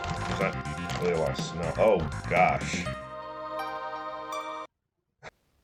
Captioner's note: sights of disappointment